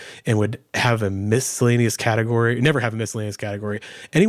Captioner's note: none